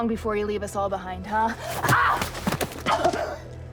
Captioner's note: groans; coughing